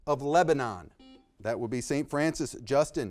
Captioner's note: buzzer beeping